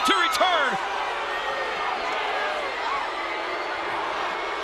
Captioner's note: crowd booing